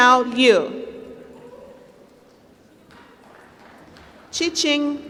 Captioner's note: applause